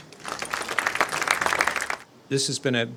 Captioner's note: audience applauding